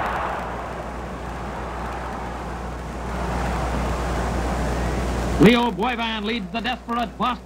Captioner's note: CROWD OOHs